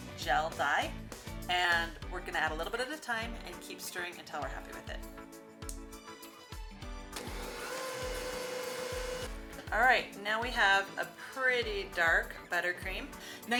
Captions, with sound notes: This is black gel dye, and we're going to add a little bit at a time and keep stirring until we're happy with it. (mixer whirring) All right, now we have a pretty dark buttercream.